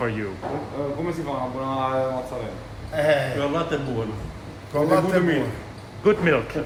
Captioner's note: speaking in foreign language